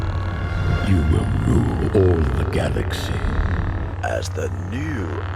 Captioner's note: ignite lightsaber